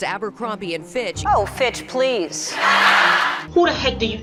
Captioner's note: audience laughing